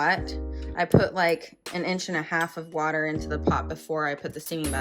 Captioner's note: weird bumping sound coming from my mic sorry